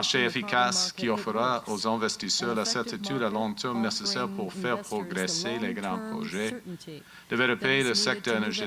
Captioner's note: speaking in french